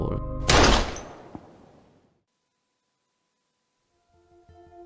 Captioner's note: gunshot